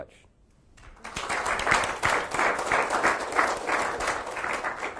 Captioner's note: audience applauds